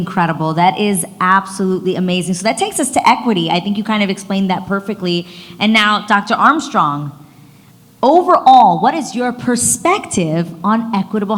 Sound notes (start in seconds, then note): none